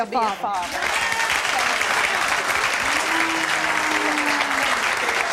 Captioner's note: audience applauding